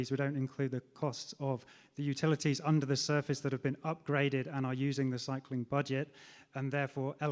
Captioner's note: none